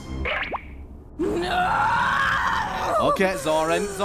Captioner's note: Zorin screams of frustration